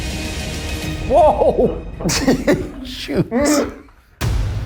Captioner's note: laughs; tense music